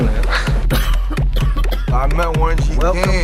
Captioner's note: coughs